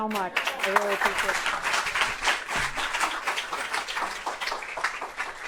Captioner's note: audience applauding